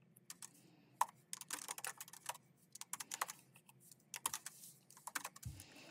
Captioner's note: keyboard clacking continues